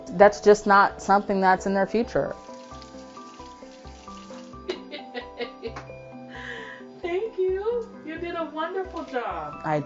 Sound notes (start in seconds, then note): 2.7 water runs; 4.6 laughs